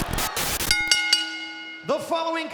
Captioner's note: bell rings